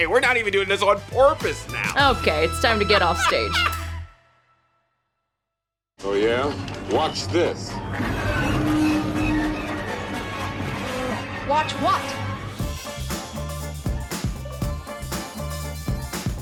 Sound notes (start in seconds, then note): 2.6 laughing; 8.2 mechanical sounds; 12.4 upbeat music